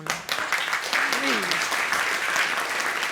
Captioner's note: audience applauding